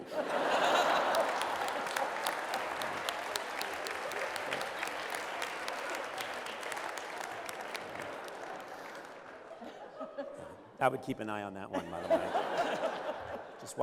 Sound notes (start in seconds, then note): 0.0 laughter; 0.2 applause